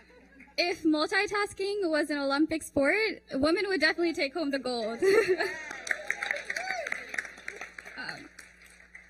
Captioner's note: applause